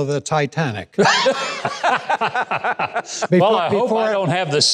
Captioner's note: laughing